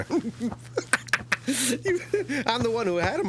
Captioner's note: stifled laughter